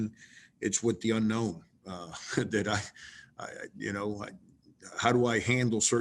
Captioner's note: laughs